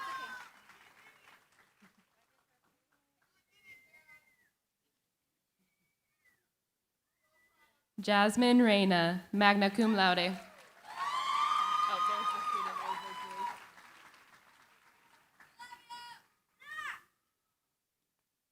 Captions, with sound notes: Jasmine Reyna, magna cum laude. [CHEERING, APPLAUSE]